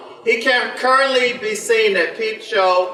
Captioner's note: none